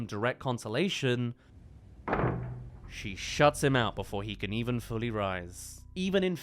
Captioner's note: slam